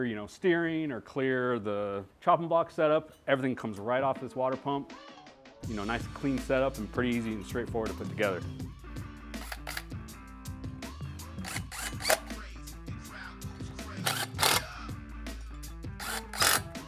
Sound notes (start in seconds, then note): 11.4 whirring